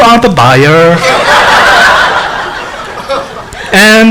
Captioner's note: laughing